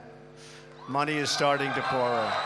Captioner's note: applause